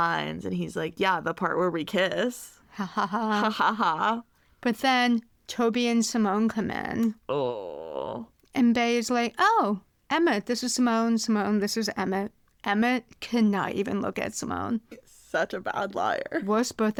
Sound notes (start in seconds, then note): 7.3 groans